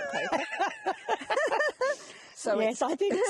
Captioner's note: laughing